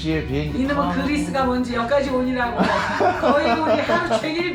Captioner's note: laughing